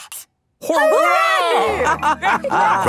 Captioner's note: all laughing